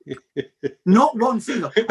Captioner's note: chuckles